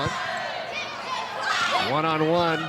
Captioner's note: players shouting indistinctly